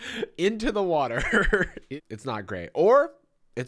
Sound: laughs

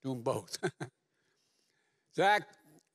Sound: laughs

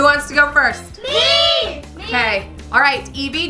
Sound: children in Unison

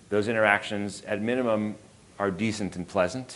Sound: none

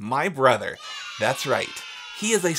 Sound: kids cheering in background

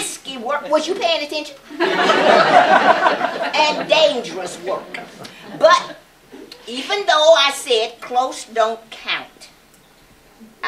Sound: laughter

